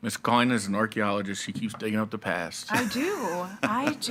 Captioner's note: laughing